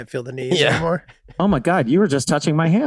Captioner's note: Rob laughing amusingly